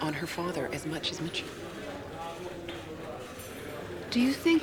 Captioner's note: none